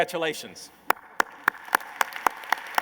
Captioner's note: applause